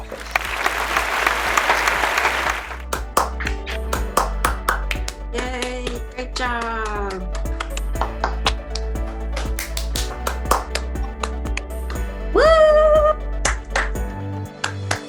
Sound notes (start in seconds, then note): 0.0 claps; 6.8 applause